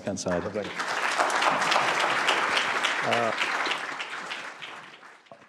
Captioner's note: applause